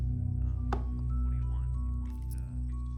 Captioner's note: on phone